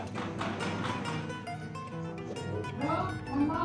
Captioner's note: knocking